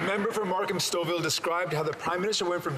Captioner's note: some Applause